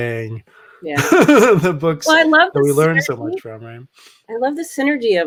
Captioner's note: laughs